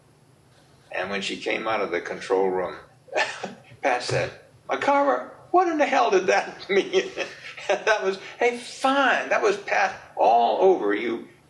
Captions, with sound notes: And when she came out of the control room [chuckles] Pat said, "McArver, what in the hell did that mean?" [laughs] And that was a fine...that was Pat all over you.